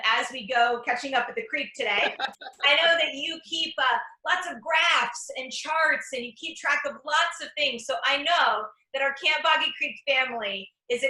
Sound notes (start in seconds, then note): 1.9 laughs